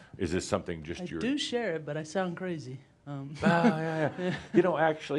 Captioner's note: she chuckles